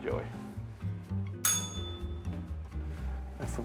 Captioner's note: bell rings